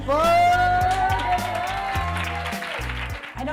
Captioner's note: applause